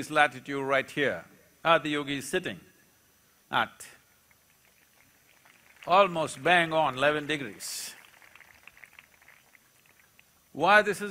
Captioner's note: applause